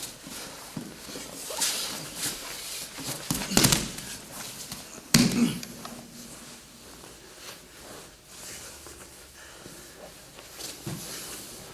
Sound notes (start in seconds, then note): 2.9 soft shuffling; 3.3 soft thudding